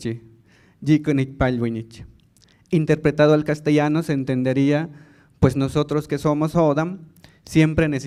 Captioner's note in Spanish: habla en lengua indígena